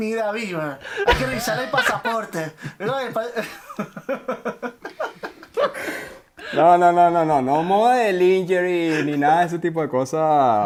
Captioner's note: laughs